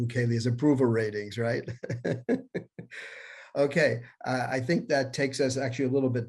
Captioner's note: laughter